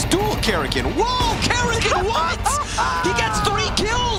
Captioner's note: commentator chuckling